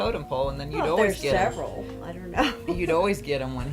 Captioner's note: laughs